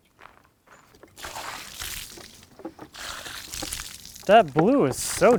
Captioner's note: water sloshing